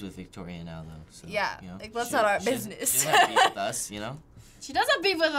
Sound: laughing

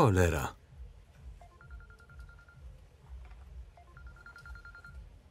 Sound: cell phone ringing

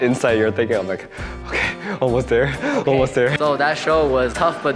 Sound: gasp

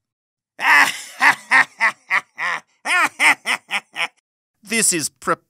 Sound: laughing

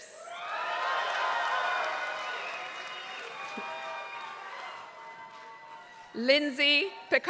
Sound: applause

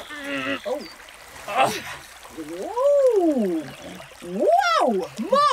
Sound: Mo grunts and manipulates their body

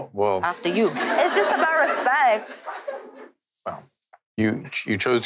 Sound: audience laughing

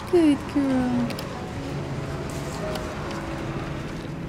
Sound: cars driving

